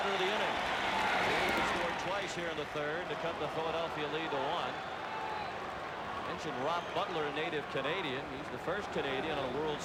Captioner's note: applause